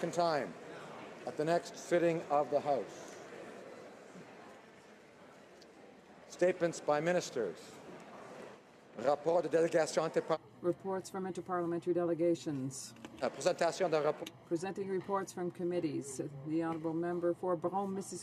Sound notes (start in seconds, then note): 2.6 speaking French